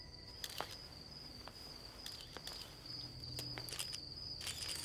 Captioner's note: Footsteps